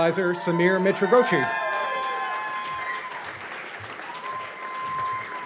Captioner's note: cheers and applause